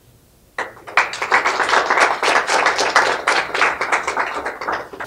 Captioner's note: applause